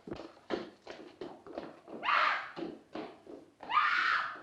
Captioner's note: screams